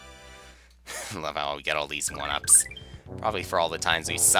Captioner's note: laughs